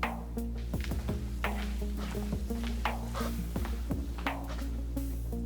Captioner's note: footsteps